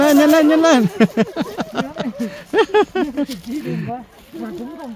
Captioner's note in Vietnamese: Tiếng cười